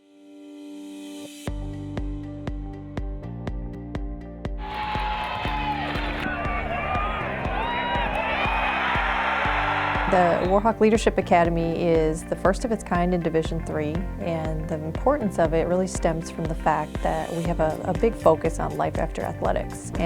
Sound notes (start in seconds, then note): 4.6 crowds cheering